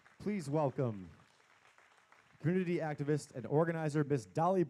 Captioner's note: applause